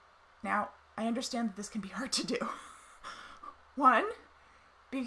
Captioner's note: laughs